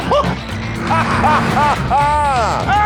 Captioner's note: jeremy laughs